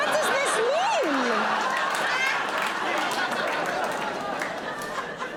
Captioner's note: audience laughing